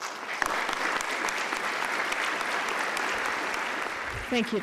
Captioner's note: applause